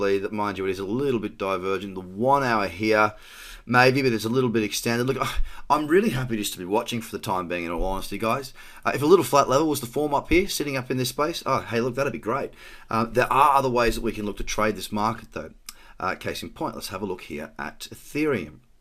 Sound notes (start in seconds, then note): 5.3 scoffs